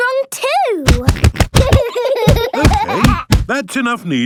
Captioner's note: banging